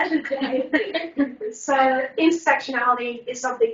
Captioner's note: laughs